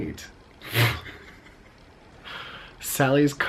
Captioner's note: chuckling